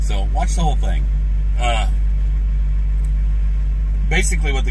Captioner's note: engine humming